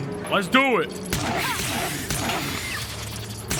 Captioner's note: gun firing